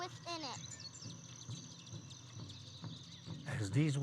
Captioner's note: birds tweeting; upbeat drumming music